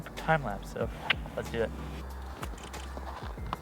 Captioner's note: clicks tongue